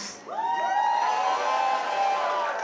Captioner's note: cheers, applause